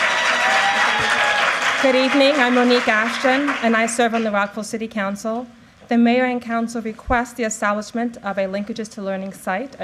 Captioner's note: applause